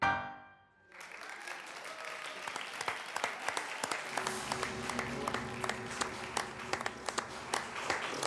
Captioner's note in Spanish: aplausos